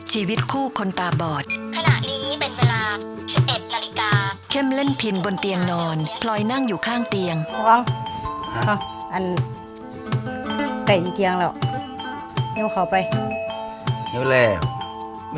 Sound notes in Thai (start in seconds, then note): 1.8 เสียงนาฬิกา